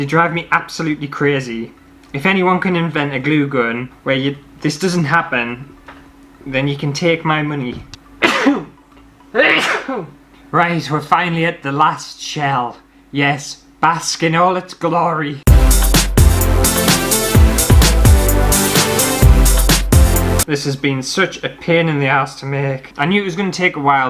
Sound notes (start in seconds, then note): 7.7 sneeze; 15.4 happy Upbeat Music